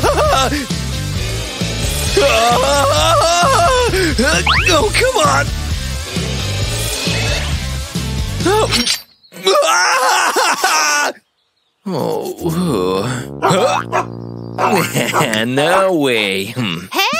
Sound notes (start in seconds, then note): 0.1 roaring; 2.2 screaming; 3.5 barking; 10.5 barking